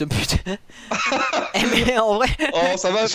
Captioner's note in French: rire